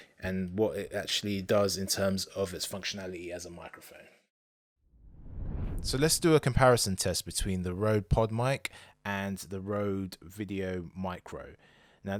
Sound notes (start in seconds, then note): 5.0 air whooshing